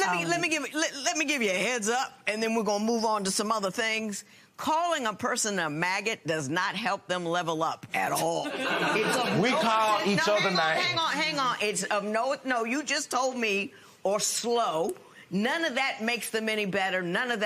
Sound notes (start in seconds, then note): 8.2 laughter